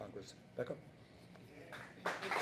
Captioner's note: applause